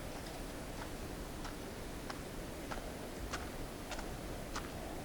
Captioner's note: footsteps crunching